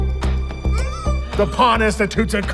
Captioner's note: muffled squealing